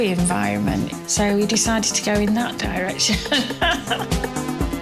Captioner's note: laughs